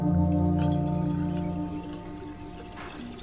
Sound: water running

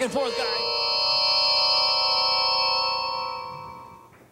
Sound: transporters hum

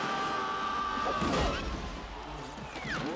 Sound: groans

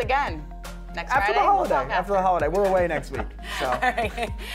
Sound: laughter

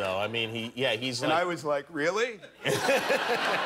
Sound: laughter

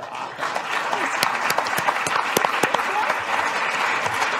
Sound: applause

